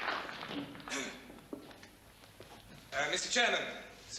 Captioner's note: clears throat